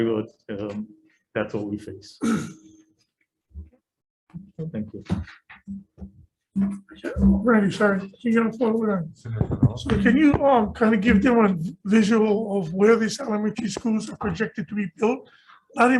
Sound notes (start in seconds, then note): 2.2 clearing throat